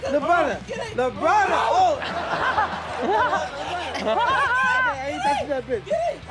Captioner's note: audience laughing